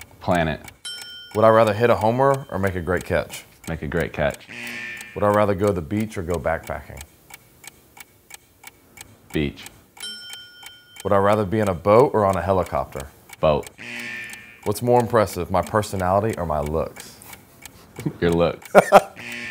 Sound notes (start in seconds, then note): 0.8 bell dinging; 4.4 buzzer blaring; 10.0 bell dinging; 13.7 buzzer blaring